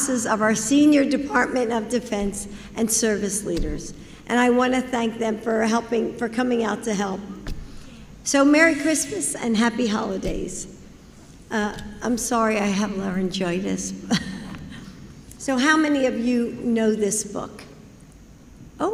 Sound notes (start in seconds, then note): 14.6 laughs